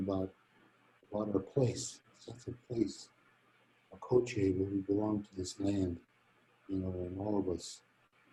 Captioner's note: speaking in native language